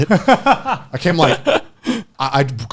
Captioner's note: laughing